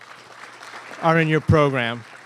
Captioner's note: applause